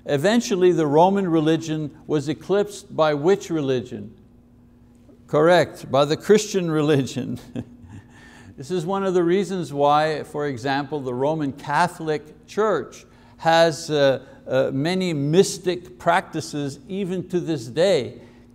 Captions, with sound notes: Eventually the Roman religion was eclipsed by which religion? Correct. By the Christian religion. (laughs) This is one of the reasons why, for example, the Roman Catholic church has many mystic practices even to this day.